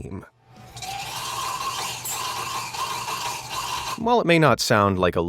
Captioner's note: steam whistling